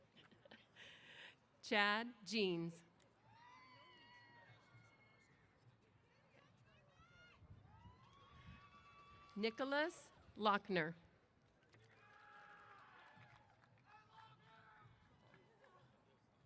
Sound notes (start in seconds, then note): 2.7 cheers; 11.8 applause & Cheers